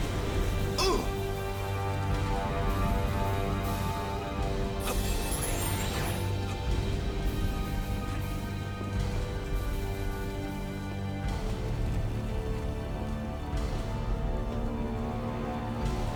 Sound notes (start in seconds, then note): 0.0 dramatic music; 0.7 grunting; 2.2 dramatic music